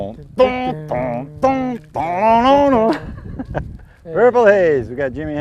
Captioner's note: humming